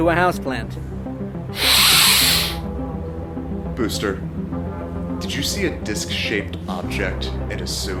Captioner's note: deeeeeep nostral breath